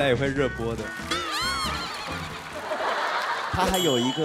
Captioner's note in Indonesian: tidak bisa menahan tawa